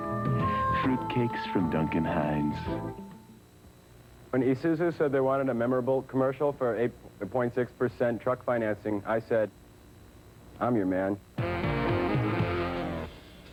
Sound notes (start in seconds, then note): 2.9 monotone, stilted; 11.4 blues riff